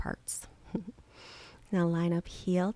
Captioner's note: chuckles